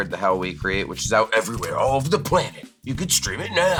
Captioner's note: movie trailer voice